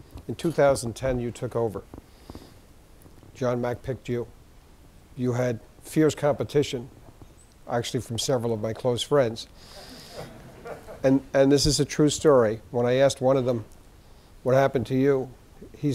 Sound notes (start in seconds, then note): 9.7 laughing